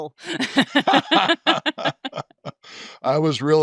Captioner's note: both chuckling